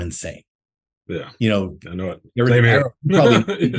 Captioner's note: laughs